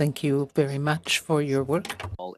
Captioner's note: speaking French